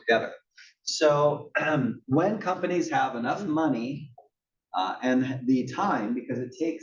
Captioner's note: cough